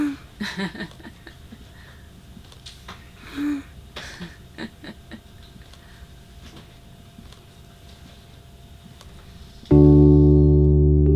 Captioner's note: laughter